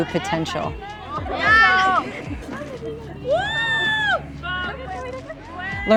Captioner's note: indistinct chatter, shouting